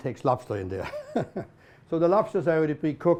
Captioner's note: laughs